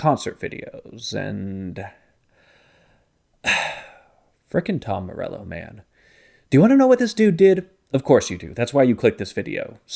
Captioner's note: sigh